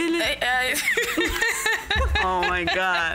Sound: both laugh

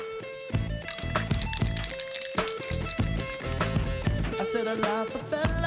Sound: paint cans rattling

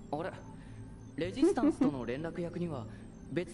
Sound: laughs

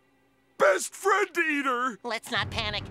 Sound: none

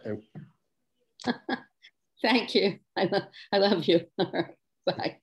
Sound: laughs

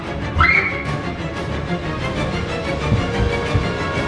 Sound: shrieks

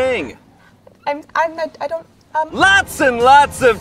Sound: server stutters

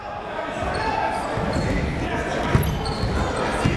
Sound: chatter

